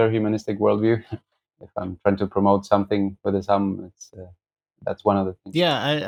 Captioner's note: laughter